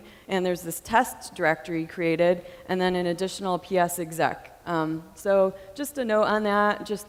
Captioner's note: none